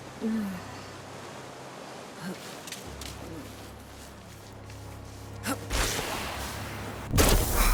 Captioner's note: gun firing